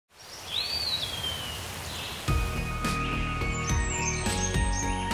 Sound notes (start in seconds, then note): 0.1 WIND and BIRD sounds